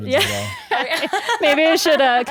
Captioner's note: guests laugh